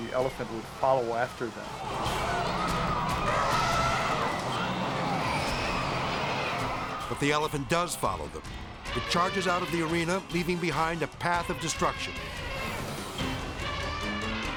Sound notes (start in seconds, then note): 1.4 elephant trumpeting; 1.7 people screaming; 11.9 elephant trumpeting